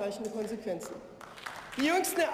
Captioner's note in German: Beifall